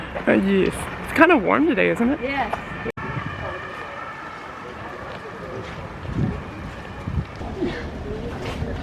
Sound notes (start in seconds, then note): 2.9 faint church bells